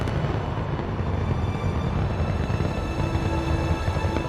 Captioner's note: rocket roaring